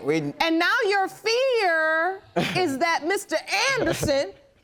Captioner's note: chuckling